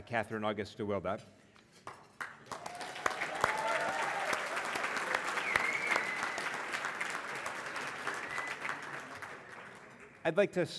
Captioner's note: applause